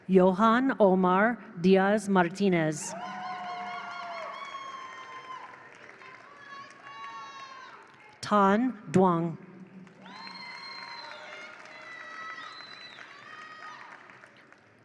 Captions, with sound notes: Johan Omar Diaz Martinez. (attendees applaud) (attendees cheer) Tan Dwang. (attendees applaud) (attendees cheer)